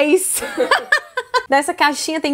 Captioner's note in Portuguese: risos